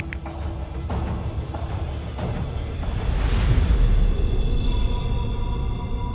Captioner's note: typing